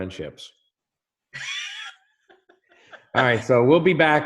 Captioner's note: both laugh